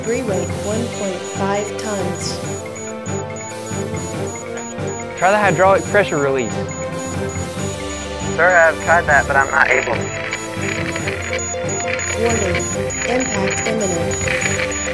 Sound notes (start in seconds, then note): 11.5 static